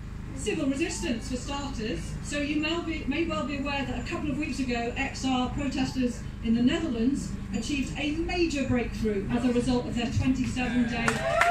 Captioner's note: clapping, cheering